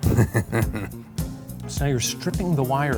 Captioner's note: laughs